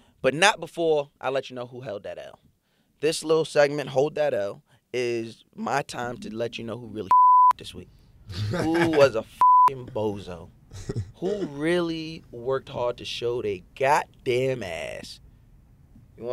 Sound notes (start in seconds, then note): 7.1 beep; 8.3 laughing; 9.4 beep